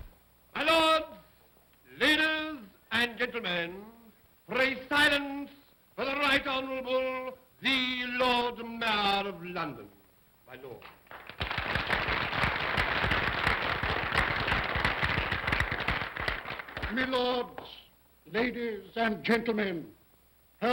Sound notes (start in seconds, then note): 10.9 applause